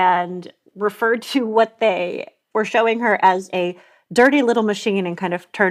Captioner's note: exhales